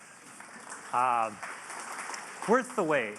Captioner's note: audience clapping